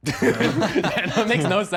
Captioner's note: contestants laughing